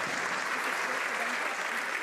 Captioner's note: some Applause